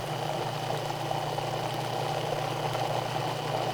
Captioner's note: mixer whirring